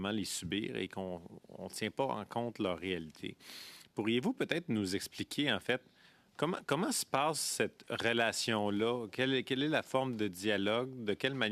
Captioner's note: speaking French